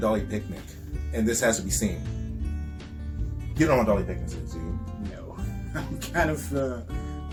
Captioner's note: chuckles